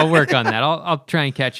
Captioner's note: laughter